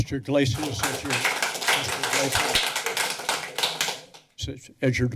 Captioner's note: applause